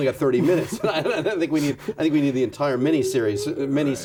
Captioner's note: laughs